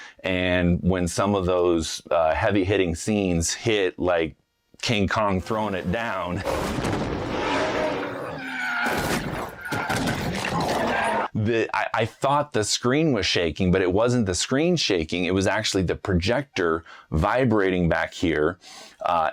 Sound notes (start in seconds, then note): 7.0 King Kong roaring; 8.7 car screeching